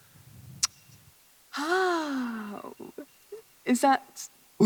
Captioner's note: Kennedy tsks, and over-dramatically sighs